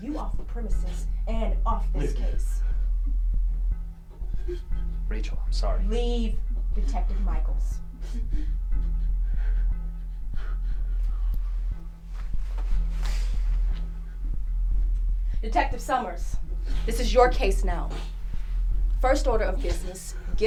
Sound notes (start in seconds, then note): 1.4 Cameron sobbing; 6.5 Cameron sobbing